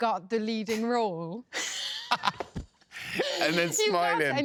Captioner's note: laughter